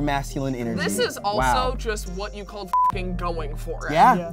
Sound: beep

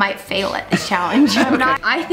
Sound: Rocky laughs

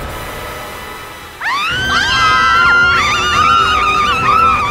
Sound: everybody screaming

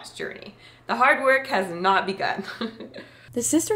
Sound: laughs

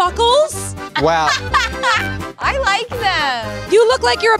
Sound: laughs

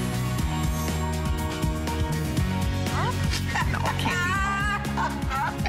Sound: laughter

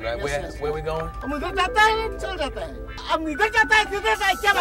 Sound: yells in foreign language

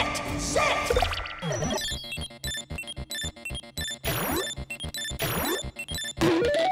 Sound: beeping

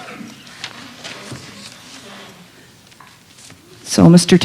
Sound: indistinct chatter

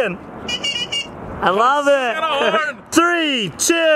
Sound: squeaker horn honking

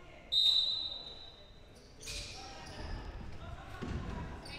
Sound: whistle blowing

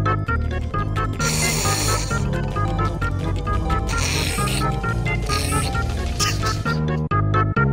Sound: chuckles

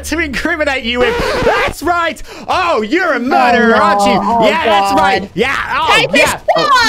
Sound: record Stops

